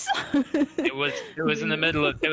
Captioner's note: giggles